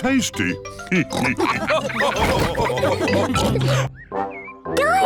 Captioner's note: all laugh